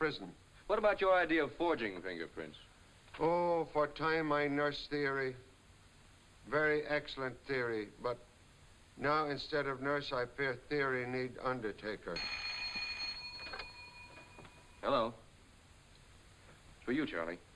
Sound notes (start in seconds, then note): 12.1 phone ringing